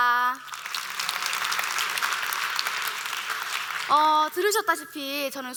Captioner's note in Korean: 박수